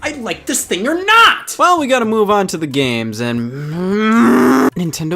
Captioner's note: groans